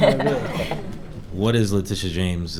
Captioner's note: audience laughing